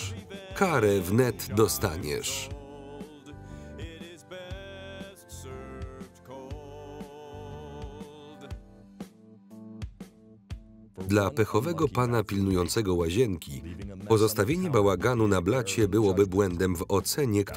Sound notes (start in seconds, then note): 11.1 voiceover